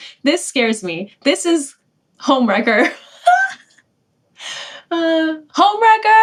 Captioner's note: laughing